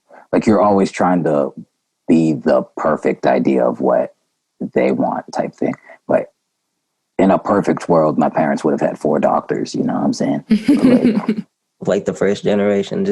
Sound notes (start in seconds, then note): 10.6 laughter